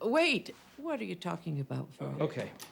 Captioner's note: none